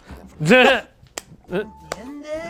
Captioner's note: chokes; laugh; speak Spanish